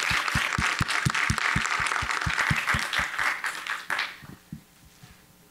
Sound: applause

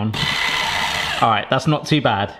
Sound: motor whines

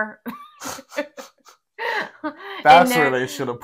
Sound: laughing

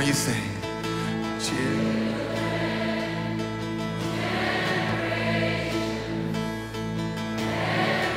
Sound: crowd

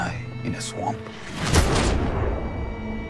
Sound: gun-shot

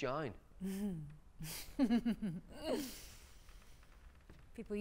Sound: Diana laughs

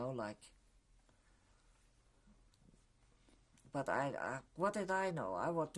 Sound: pauses for 3 seconds

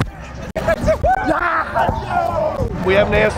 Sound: cheering

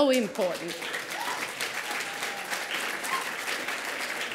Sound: applause

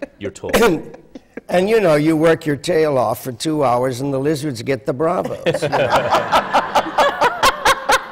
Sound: laughter

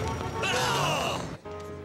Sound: both yelling

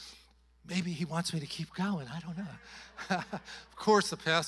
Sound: chuckles

